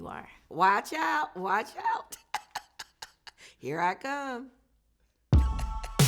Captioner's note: laughs